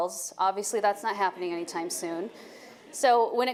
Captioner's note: audience laughing